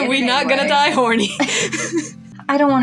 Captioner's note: chuckle; laugh